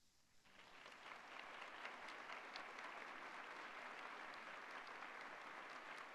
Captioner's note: applause